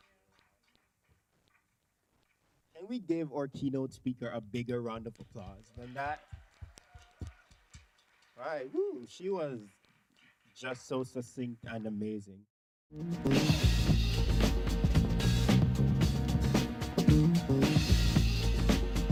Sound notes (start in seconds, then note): 5.2 applause; 5.7 cheering